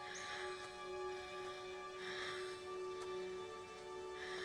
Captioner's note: breathing heavily